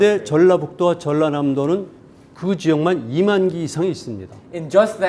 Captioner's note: speaking in Korean